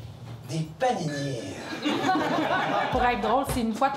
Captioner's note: laughs